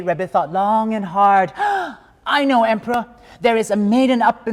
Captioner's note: gasps